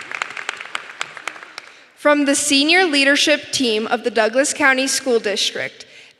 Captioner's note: applause